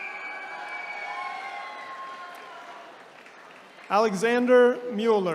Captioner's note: attendees cheering